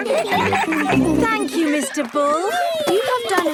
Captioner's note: giggling